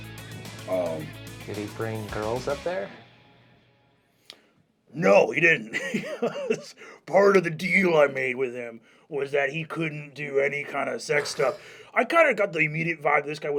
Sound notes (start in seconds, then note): 0.0 upbeat rock music; 5.0 laughs